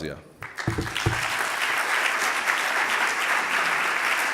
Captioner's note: audience applauding